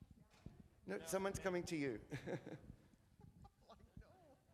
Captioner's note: laughs